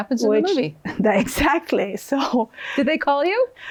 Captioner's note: chuckles